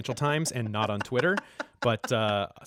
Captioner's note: laughter